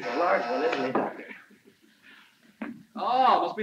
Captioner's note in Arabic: صوت الباب